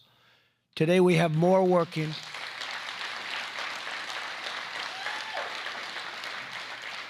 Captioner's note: applause